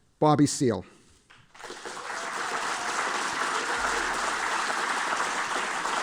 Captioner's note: applause